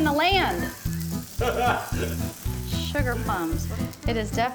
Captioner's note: laughs